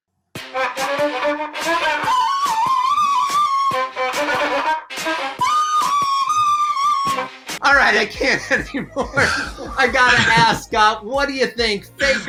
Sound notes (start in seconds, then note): 0.3 distorted music; 8.1 chuckling